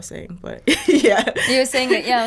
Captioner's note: laughing